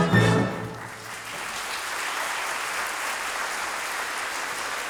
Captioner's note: audience claps